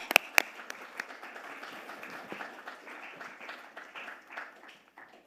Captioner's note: audience applauding